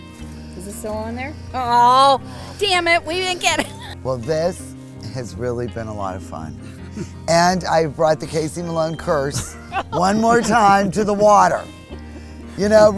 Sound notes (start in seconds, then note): 1.4 laughs; 8.2 laugh